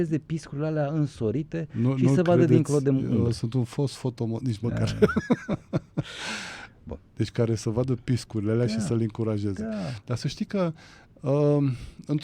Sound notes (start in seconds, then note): 4.8 laughter